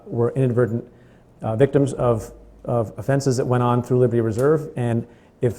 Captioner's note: stutters